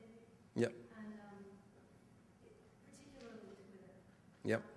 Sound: voiceover

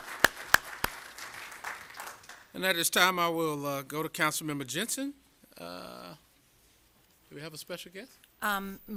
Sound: applause

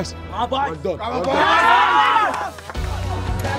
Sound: team cheering; inspirational music continues

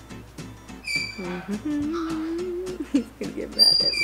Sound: happy humming

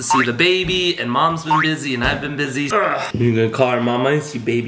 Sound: boing; boing

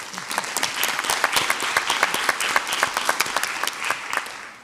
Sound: audience applauds

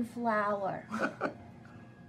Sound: laughing

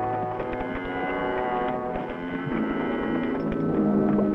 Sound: cattle lowing

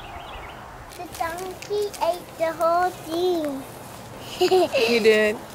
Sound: chuckles

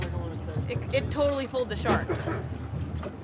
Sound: chuckling

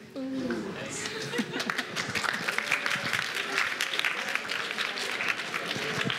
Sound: applause

